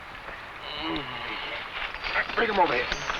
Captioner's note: man groans